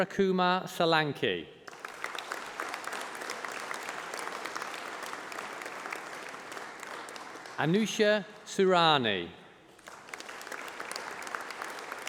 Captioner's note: applause